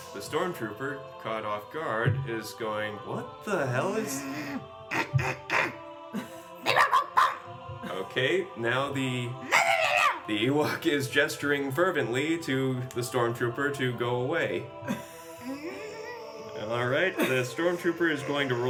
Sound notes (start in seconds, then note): 5.4 more growling and yelling in Ewok